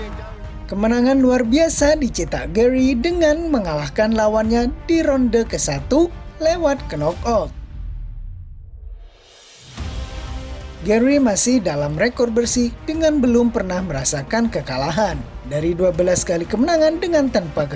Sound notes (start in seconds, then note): 0.0 applause